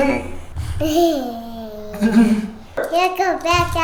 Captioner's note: giggling